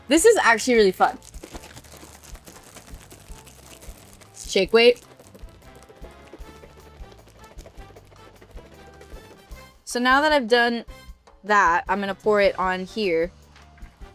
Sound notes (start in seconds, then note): 2.5 bag rattles; 6.0 bag rattles; 13.9 light upbeat music